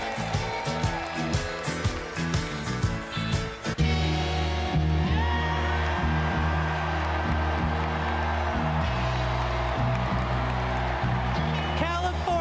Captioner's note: cheers and applause